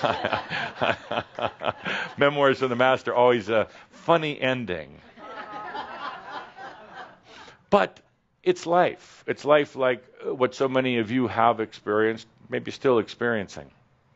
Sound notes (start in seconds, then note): 0.0 Adamus chuckles; 5.2 some laughter